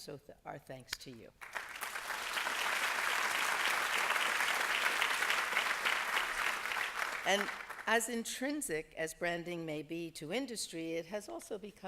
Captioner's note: applause